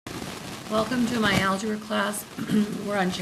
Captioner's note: voiceover